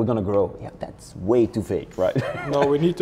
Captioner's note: laughs